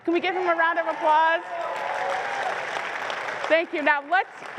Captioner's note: applause